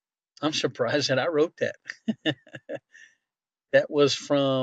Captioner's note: laughing